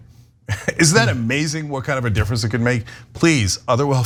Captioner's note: laugh